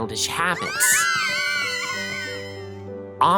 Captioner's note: girls screaming